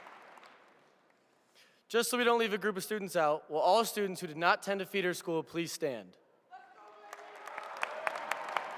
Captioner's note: applause